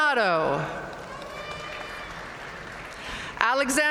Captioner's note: audience cheering and applauding